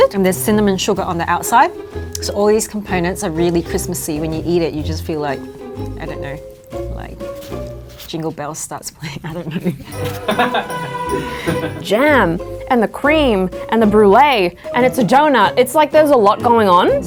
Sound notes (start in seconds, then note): 9.2 chuckles; 9.9 laughs